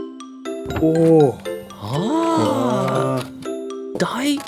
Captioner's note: chorus of ohs and ahs